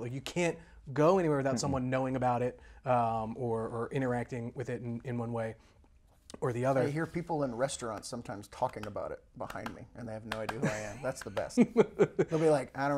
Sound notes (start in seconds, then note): 10.2 claps